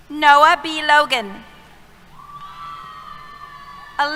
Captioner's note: cheers